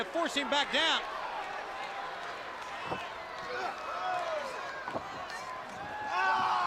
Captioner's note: crowd cheering